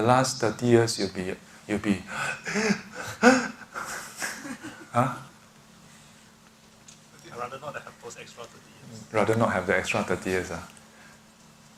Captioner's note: gasping